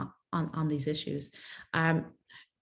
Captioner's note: speaks French